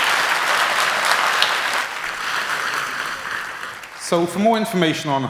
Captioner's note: cheers and applause